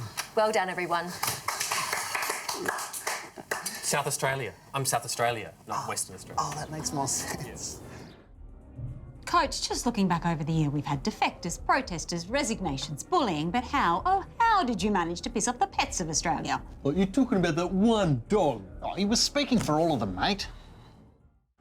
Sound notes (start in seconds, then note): 0.0 others clap